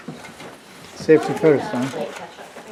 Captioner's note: chatter